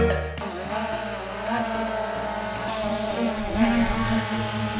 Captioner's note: drone buzzing